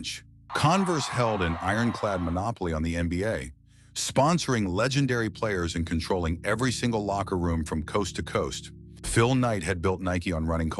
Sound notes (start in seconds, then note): 7.0 SFX: crowd cheering faint